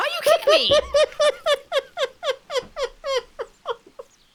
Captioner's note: laughter